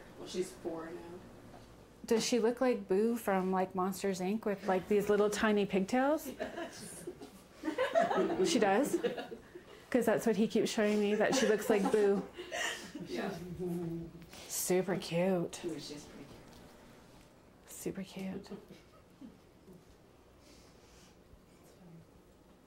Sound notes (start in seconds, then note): 7.5 laughter; 7.6 laughing